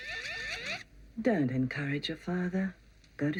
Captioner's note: chirping stops